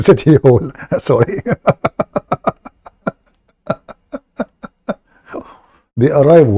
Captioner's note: Ketawa